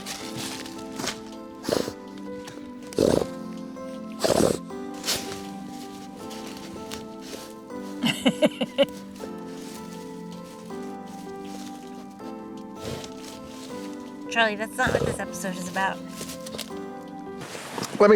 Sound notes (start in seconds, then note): 1.8 dog snuffles; 8.0 woman laughs